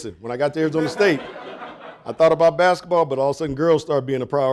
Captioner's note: audience laughing